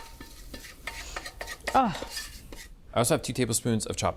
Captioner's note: spatula scraping; sniffs